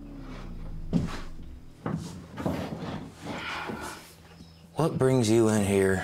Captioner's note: footsteps thudding